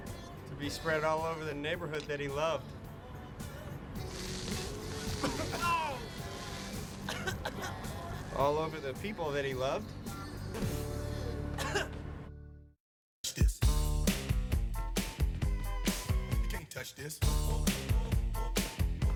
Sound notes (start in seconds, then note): 5.3 coughs; 11.5 sputters and coughs